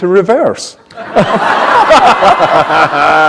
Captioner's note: laughter